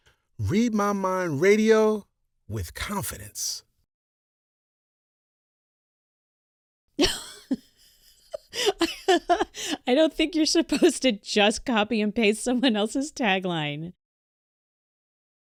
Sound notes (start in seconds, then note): 7.0 big laugh